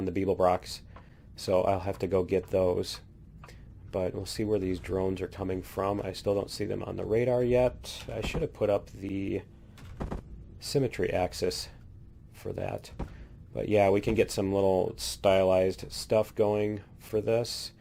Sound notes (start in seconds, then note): none